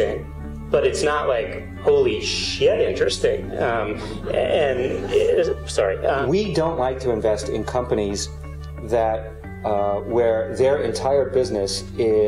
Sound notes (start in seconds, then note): 3.9 laughter